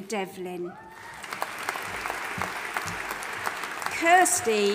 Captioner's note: audience applauding and cheering